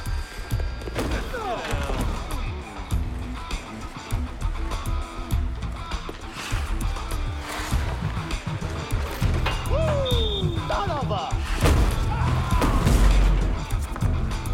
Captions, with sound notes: Ah! - Get down. (rock music) Woo! - Son of a... (screaming)